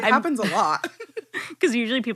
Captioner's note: laughing